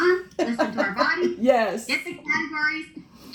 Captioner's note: laughing